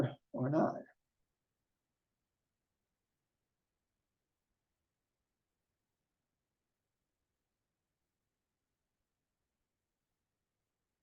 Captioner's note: silence